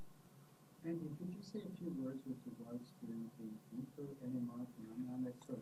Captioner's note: speaking off microphone